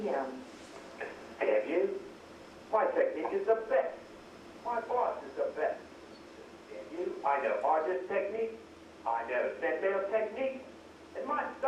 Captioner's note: voicemail recording plays